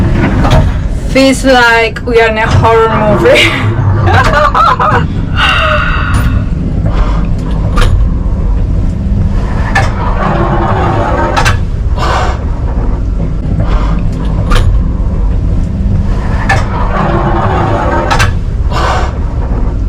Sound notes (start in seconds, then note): 3.2 laughs; 7.2 mechanical noises